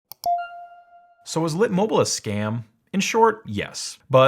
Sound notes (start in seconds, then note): 0.2 electronic ding